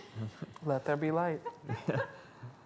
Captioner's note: laughing